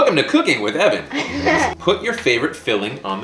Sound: laughter

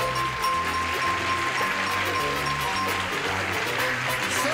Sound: applause

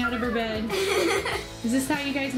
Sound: laughing

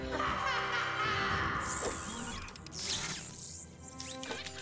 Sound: whirring

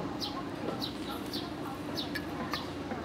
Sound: ambient noise, birds chirping

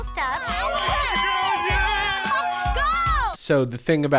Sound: people cheering

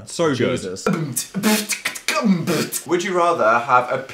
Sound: beatboxing

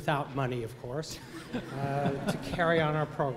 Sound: laughter

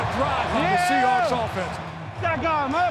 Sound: crowd cheering

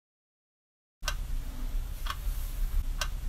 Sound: tick; tock; tick

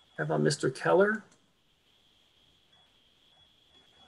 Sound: clicking

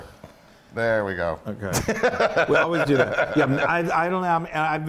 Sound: laugh

